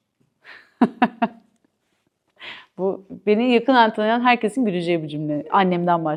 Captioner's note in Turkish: kahkaha